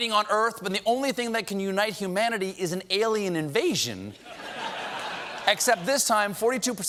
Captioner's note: laughter